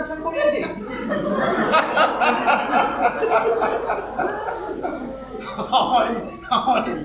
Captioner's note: laughs aloud